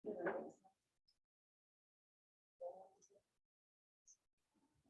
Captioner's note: indistinct chatting